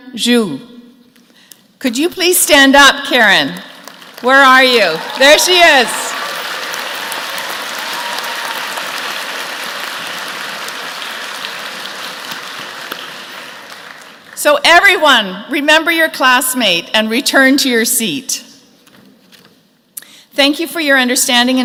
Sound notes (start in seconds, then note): 7.6 applause